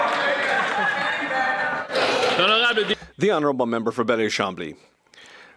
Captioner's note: speaking French